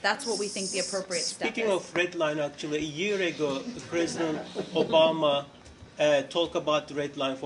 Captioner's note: laughter